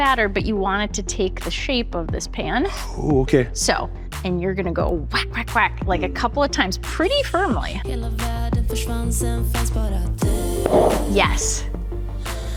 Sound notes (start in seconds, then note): 8.0 lively music; 10.6 Bundt pan bangs